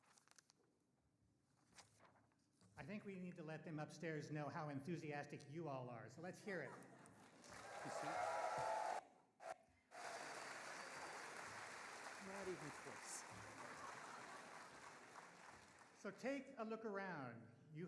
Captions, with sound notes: I think we need to let them upstairs know how enthusiastic you all are, so let's hear it. (audience applauding) Not even close. (audience laughing) So take a look around.